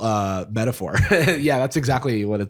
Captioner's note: laughs